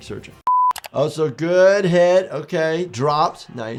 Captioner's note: beep